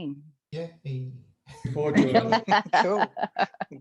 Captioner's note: laughing